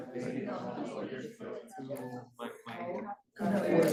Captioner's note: students chattering